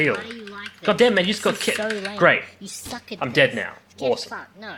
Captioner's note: rambling continues